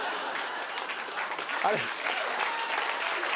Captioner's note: cheers and applause